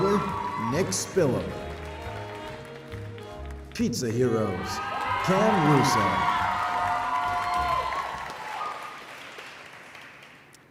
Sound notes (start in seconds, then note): 6.4 applause